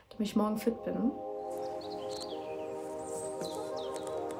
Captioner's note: birds chirping